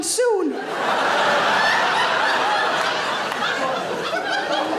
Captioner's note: audience laughing